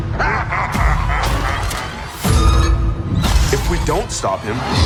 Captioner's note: Hat Box ghost laughing; tense eerie music